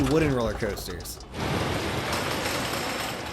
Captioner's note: coaster whooshing; click clack sound in action, again